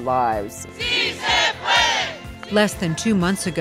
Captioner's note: crowd